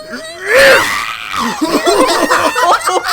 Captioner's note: grunts; laughter